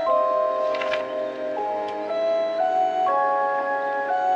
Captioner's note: page turning